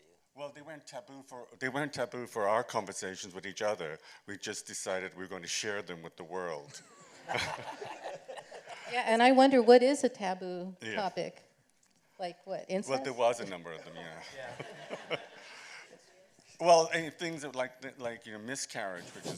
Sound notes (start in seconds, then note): 6.7 laughter; 14.2 laughter